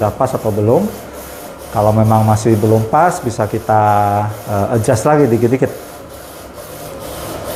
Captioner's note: printer machine noise